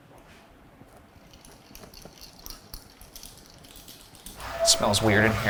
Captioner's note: rods rattling